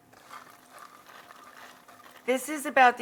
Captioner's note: beans rustling